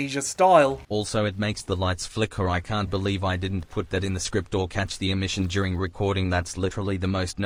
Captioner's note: robot voice